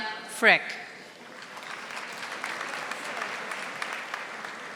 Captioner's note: audience applauding